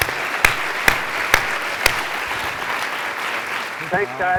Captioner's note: applause